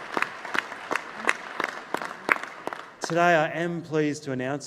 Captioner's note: applause